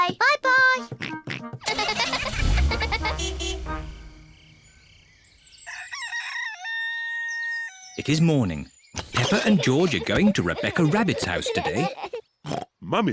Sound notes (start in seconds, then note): 1.6 horn toots; 1.6 giggling; 5.6 rooster crows